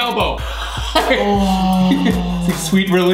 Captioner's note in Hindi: कराहना